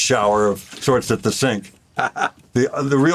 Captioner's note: chuckles